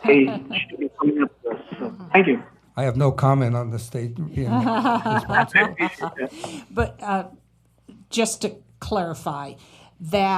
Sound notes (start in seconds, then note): 4.4 laughter